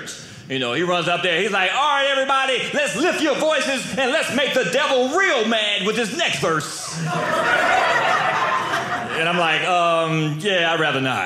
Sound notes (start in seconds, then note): 6.7 audience laughing